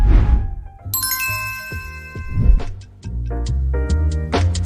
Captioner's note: logo chiming